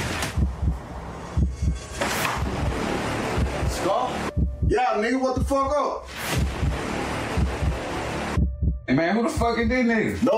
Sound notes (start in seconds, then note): 0.4 music intensifies; 7.2 heart pounding